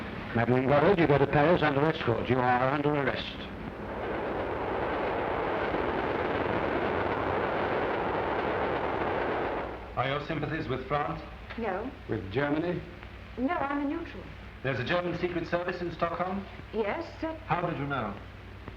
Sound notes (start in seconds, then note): 3.7 train rumbling